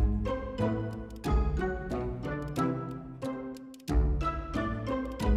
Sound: tap tap tap

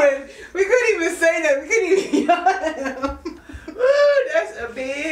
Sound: laughs

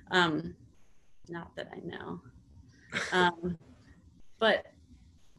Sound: laughs

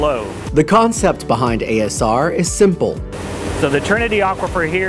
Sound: voiceover

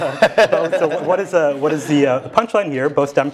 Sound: laugh

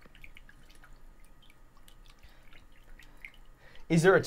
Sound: water splashing softly

